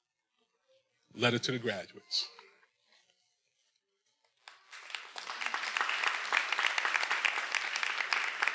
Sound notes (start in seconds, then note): 4.4 everyone applauding